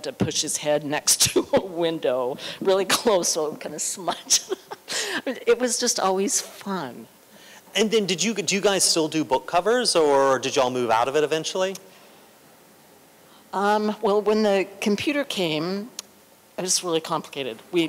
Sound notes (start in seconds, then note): 4.0 laughter